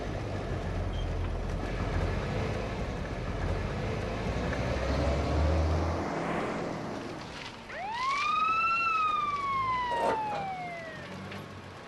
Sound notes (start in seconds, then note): 7.7 ambulance siren